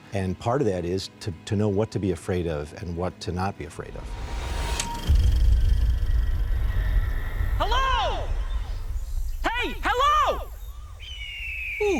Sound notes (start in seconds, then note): 4.6 projector whirring; 7.2 echoing; 10.5 bird cawing